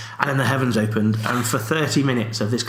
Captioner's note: laughs